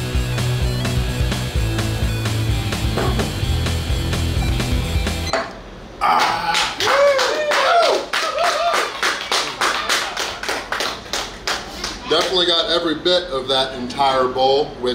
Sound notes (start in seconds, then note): 6.0 groans; 6.1 cheers and applause; 7.9 shouts; 8.8 cheers and applause